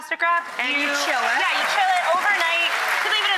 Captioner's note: audience applauds